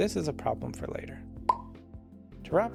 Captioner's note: pop